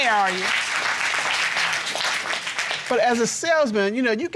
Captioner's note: applause